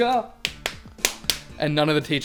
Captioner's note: clap x5